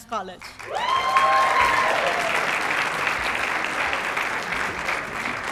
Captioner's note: cheers, applause